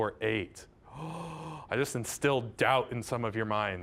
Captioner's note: gasping